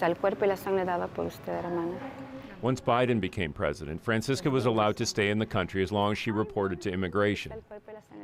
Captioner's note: speaking spanish